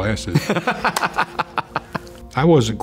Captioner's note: laughs